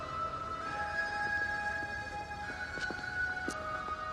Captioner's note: none